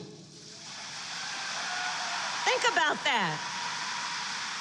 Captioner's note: applause